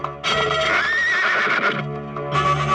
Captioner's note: horse neighing